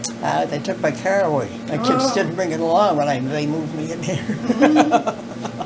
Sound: laughter

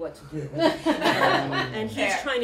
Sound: laughter

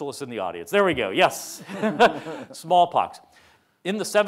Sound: laughs

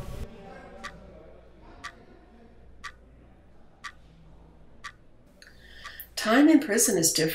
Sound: clock ticking

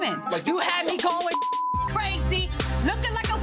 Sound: beep

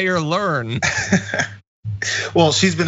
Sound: laugh

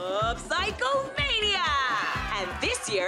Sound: cheering

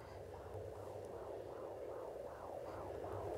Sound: ultrasound whirring

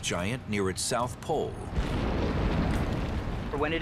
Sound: explosion

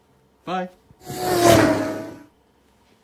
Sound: zooms off

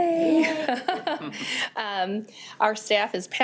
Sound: laughs

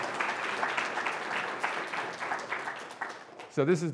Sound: audience applauding

